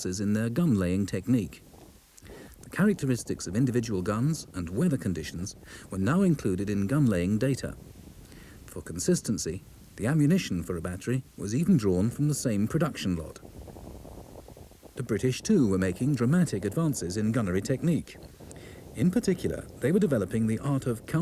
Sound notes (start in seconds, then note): 13.7 earth rumbles